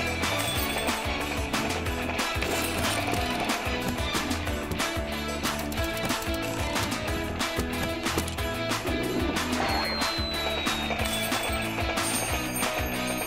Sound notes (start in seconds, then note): 0.1 bell ringing; 9.6 wind whistling; 11.2 bell ringing